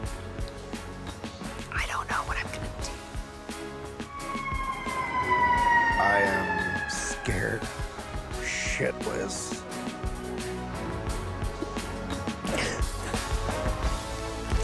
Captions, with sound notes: - I don't know what I'm gonna do. (sirens wailing) - I am scared shitless. (dramatic music)